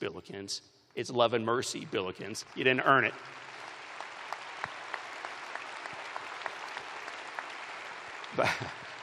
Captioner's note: applause